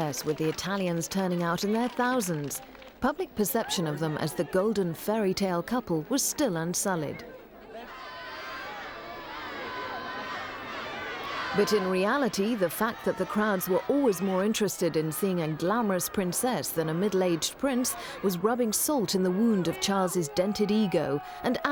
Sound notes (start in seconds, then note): 7.9 children yelling